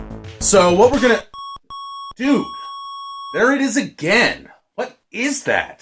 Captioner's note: annoying beeping